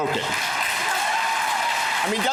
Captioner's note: cheers and applause